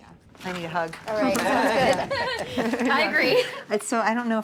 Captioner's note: laughing